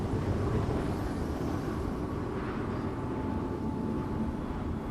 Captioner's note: atmospheric noise